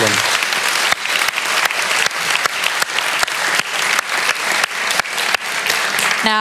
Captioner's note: applause